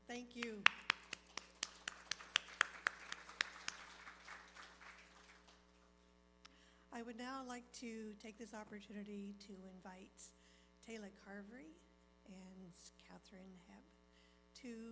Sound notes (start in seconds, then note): 5.9 applause